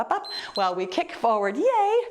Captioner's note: timer beeps